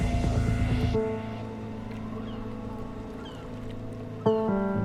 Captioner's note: wind, water, seagulls